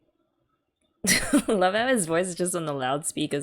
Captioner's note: laughs